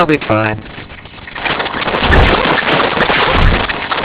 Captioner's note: Gloink squeaking rapidly